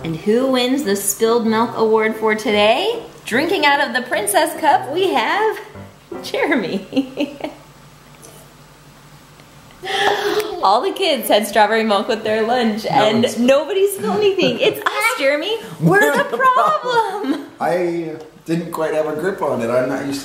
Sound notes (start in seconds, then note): 6.6 chuckles; 13.7 soft laugh